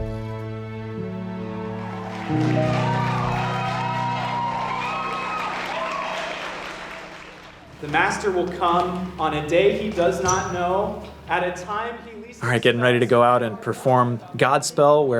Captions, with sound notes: (audience applauding) - The master will come on a day he does not know, at a time he least... Getting ready to go out and perform "Godspell,"